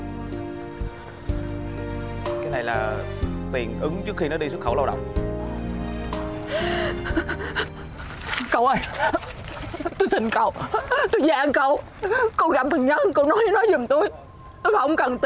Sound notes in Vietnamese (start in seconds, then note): 10.6 Tiếng cười